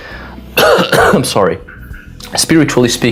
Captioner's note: cough